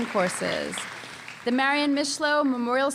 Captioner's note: applause